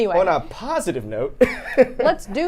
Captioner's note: laughing